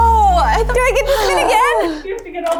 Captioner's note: exasperated sigh